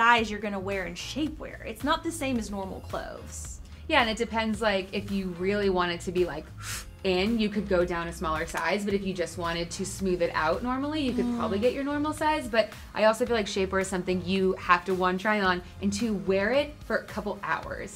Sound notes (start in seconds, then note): 6.5 breathes in